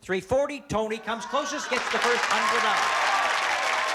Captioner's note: cheers and applause